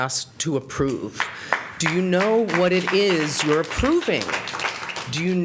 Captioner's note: applause